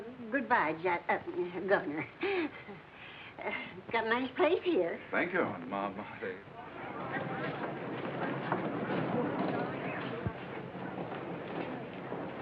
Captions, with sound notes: -Goodbye [stutters] Governor. Got a nice place here. -Thank you. -Ma, I'll take-- [chatter]